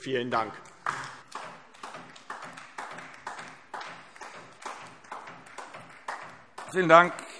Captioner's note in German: Beifall DIE LINKE